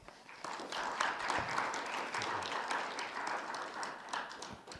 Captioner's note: attendees clapping